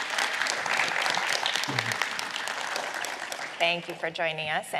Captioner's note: applause